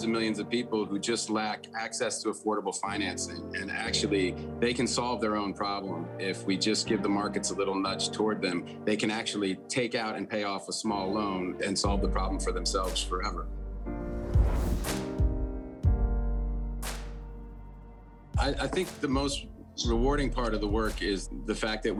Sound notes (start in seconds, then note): 13.9 image whooshing; 14.4 pensive instrumental music